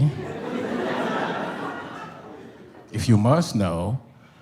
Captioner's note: audience laughs